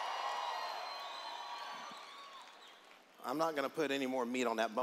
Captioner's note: cheers